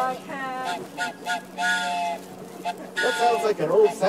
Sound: train whistle sound

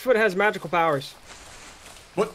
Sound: rustling Noises

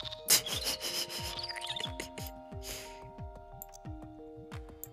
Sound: giggles

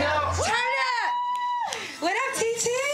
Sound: cheering

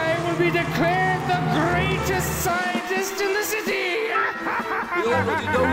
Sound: laughs

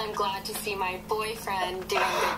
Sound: laughing

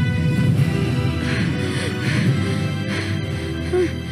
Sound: panting

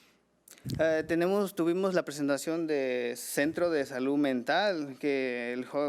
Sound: man speaking foreign language

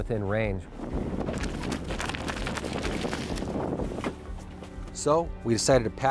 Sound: flapping

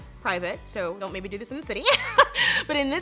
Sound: laughs

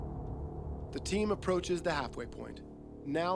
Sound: voiceover

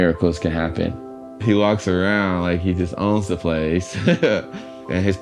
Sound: laughs

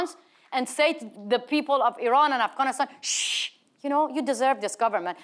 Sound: Masih shushes

